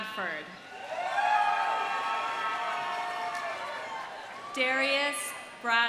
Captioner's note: audience cheering; audience applauding